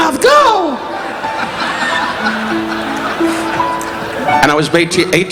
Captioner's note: audience laughing